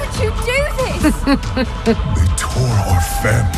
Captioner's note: snickers